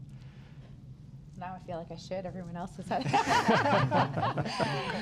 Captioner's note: laughs